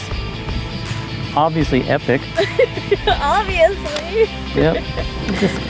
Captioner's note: laughs